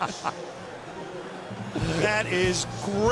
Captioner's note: laughter